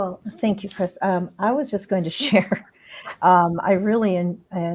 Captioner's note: laughter